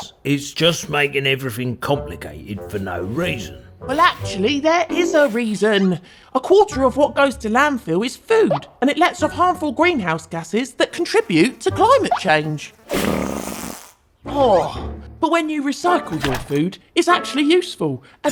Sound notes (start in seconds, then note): 12.9 Reggie farts